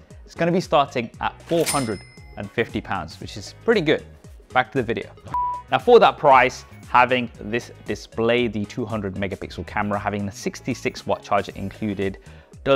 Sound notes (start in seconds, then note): 5.3 test card beeps